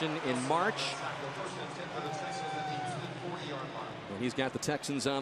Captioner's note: pa announcement